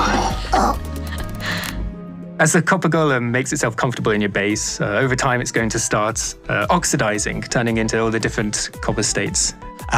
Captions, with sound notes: [Grunting] As the Copper Golem makes itself comfortable in your base, over time, it's going to start oxidizing, turning into all the different copper states.